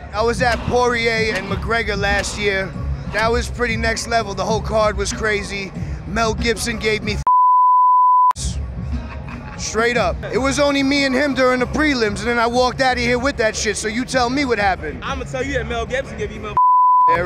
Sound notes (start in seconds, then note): 9.0 laughing